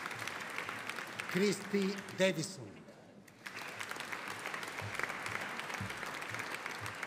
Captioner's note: audience applauding